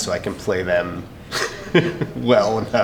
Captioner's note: laughs